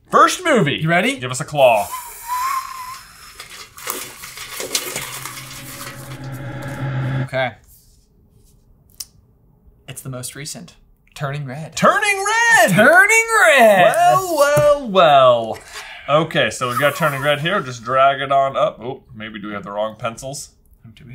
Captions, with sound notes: - First movie. - You ready? - Give us a claw. (paper rustling) (intense music) - Okay. It's the most recent, "Turning Red." - "Turning Red." - "Turning Red." - Well, well, well. Okay, so we've got "Turning Red" here. Just drag it on up. Oh, maybe do we have the wrong pencils?